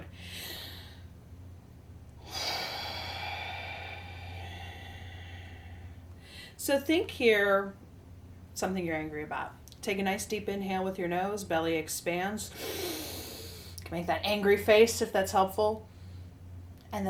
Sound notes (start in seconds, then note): 0.3 inhales forcefully; 2.2 exhales forcefully; 12.5 inhales deeply